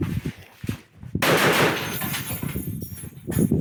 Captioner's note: machine gun fires